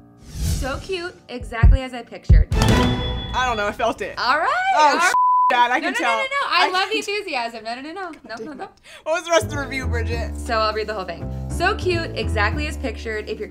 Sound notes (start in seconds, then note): 2.4 intense music; 5.1 beep